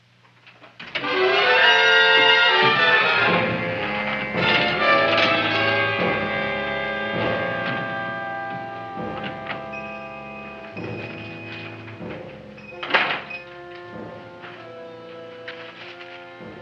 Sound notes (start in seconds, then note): 0.6 doorknob rattling; 1.6 dramatic music; 9.5 shop bell dings; 12.9 door closes